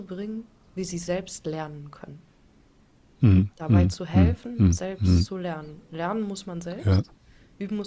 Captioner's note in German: räuspern